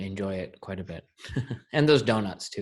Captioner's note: laughs